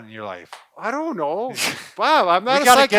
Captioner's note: laughing